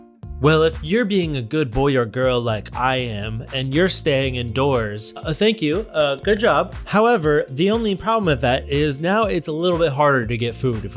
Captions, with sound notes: - Well if you're being a good boy or girl like I am, and you're staying indoors, thank you, ah good job (hands clapping). However, the only problem with that is now it's a little bit harder to get food